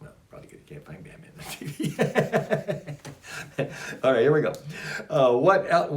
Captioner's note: laughs